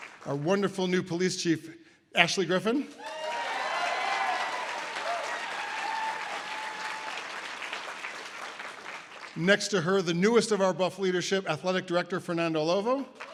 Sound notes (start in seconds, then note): 0.0 audience applause; 3.0 audience applause